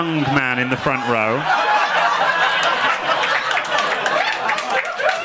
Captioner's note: audience laughing